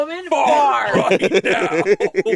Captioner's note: laughs; laughing